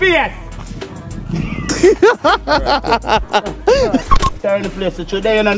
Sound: burses out in laughter

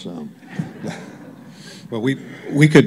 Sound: laughter

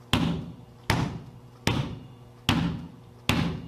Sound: floor thudding

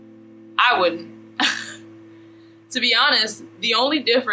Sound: laughs

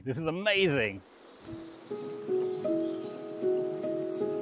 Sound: birds chirping; gentle music

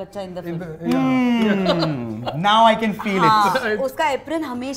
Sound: scoffs

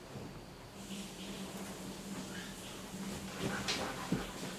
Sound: shower running

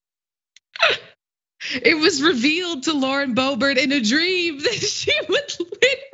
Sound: laugh

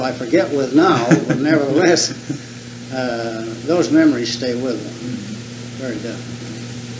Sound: laughs

